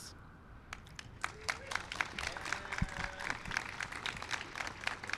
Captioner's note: applause